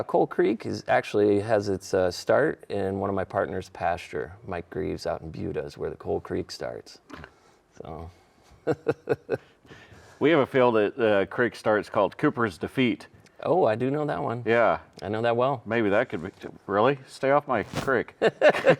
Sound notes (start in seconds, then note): 8.6 laughing